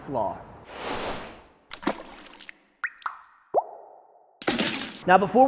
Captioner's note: dripping and splashing